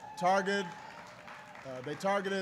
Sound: applause

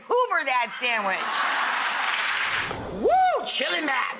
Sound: audience laughing

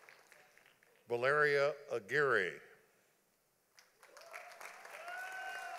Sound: audience applauding

